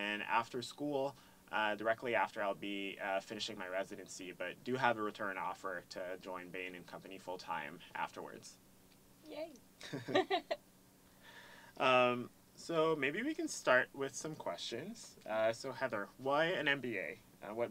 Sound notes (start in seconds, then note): 9.8 laugh